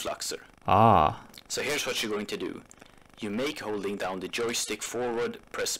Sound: distorted voice

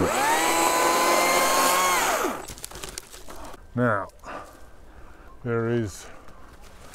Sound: chainsaw

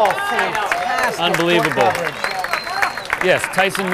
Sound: audience applauding and cheering

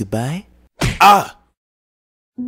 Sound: slap

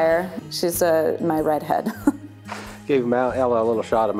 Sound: laughs

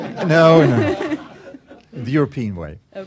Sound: laughter

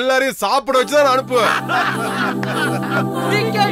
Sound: laughs

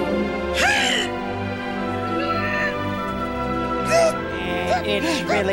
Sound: grunting

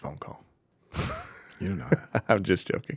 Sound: chuckles

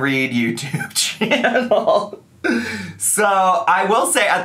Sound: laughing

